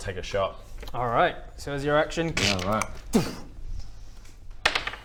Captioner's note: click